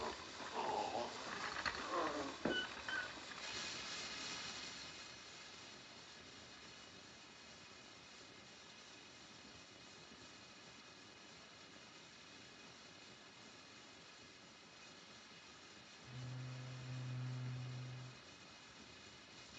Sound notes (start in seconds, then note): 0.4 gagging; 3.4 machine hissing